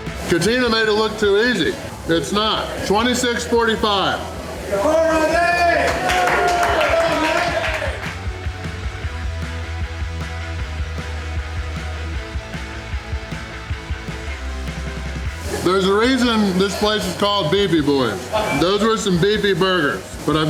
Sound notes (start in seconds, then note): 4.7 crowd; 4.7 crowd cheering and applause